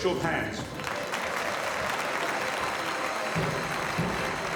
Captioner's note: members applauding